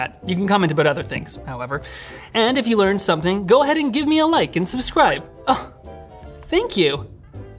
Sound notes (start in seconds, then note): 5.5 gasps